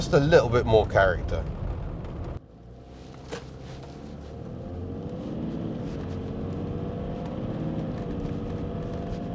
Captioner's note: meaty diesel engine noises